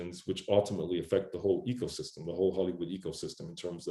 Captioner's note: none